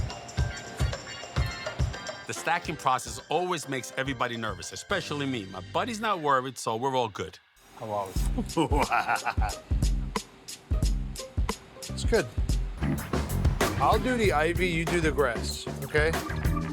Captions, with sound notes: - The stacking process always makes everybody nervous, especially me, but Buddy's not worried, so we're all good. Oh whoa. - Wow. (light upbeat music) (Buddy laughs) - I'll do the ivy, you do the grass, okay?